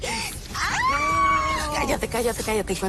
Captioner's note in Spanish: Gritos